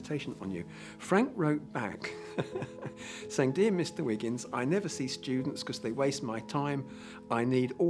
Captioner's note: laughing